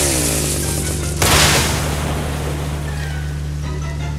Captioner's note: splash!!!